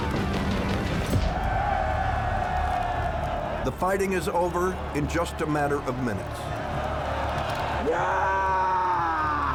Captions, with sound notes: [cheering] - The fighting is over in just a matter of minutes. - Yeah!